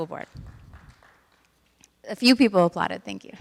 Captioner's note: clapping